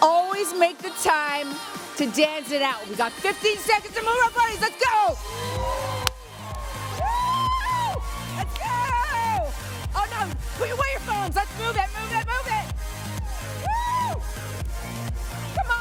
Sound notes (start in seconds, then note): 5.0 attendees cheering; 14.1 upbeat music continues